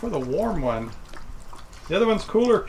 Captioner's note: dog slurping